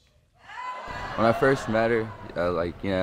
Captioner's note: audience gasp